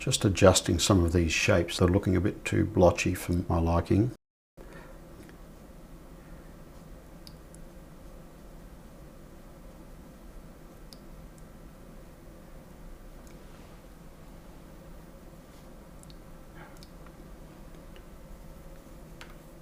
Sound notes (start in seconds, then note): 4.6 silence